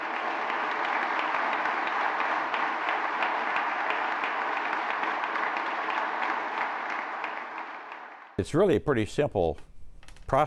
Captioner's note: applause